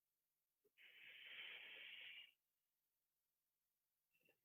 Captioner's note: breath out